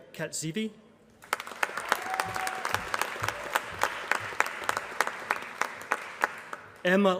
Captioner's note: applause